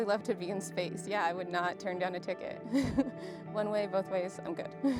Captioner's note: laughs